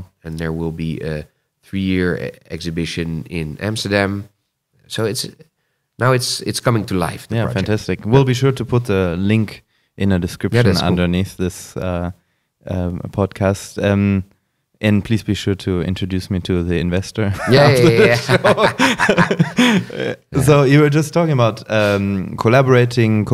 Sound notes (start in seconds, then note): 17.4 laughs